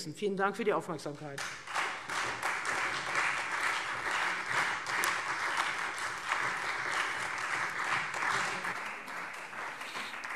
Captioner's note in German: Beifall Freie Demokraten und SPD